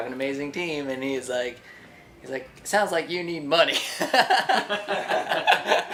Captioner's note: laughs